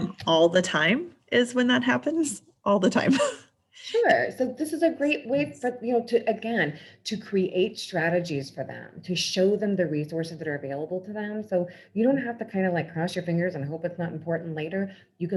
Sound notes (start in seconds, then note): 0.0 laughs; 3.0 laughs